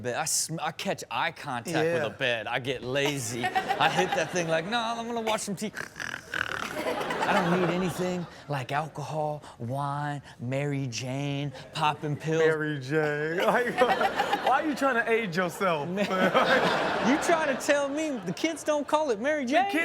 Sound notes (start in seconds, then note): 3.0 audience laughing; 5.8 Rob snores; 6.5 audience laughs; 13.1 audience laughs